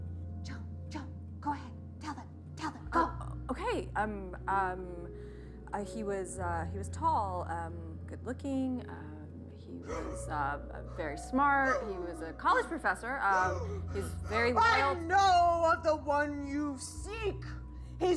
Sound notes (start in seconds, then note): 13.3 Cricket gasping